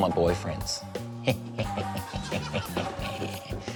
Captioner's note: chuckles evilly